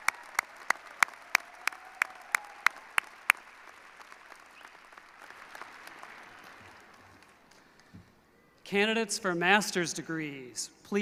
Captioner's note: applause